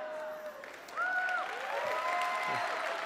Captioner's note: applause